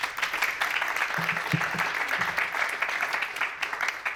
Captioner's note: applause